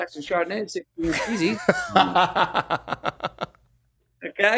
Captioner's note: laughs